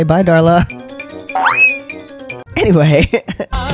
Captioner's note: cartoon running sounds